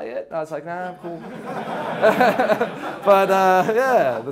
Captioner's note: audience laughs